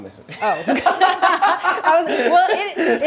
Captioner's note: laughs